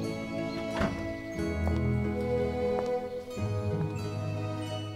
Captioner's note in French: heurs des battants en bois de la porte